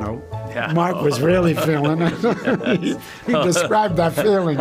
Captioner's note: both laughing